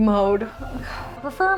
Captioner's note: noise of Defeat